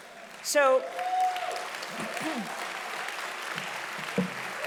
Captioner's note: audience applauding loudly